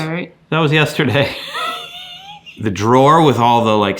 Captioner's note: laughs